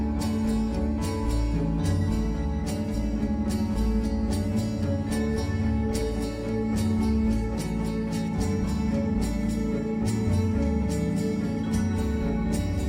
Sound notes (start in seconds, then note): none